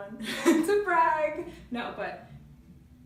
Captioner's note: laughing